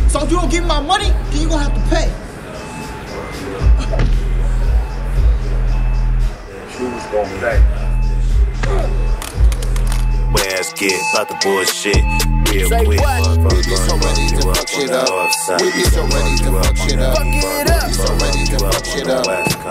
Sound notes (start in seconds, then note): 3.8 thudding; 8.6 thudding